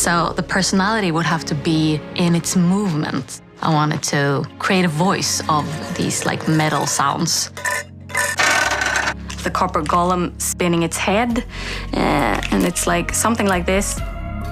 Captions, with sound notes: So the personality would have to be in its movements. I wanted to create a voice of these like metal sounds. [Scraping] The Copper Golem spinning its head. And it's like, something like this.